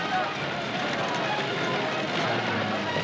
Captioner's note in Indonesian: Tepuk tangan